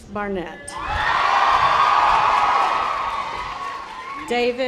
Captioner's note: audience applause